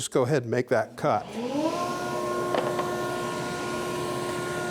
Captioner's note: power tool humming